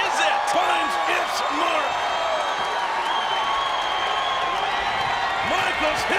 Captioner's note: audience cheering and shouting